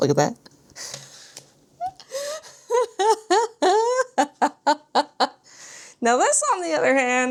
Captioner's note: laughs